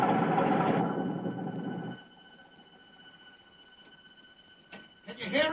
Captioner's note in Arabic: اغلاق المحرك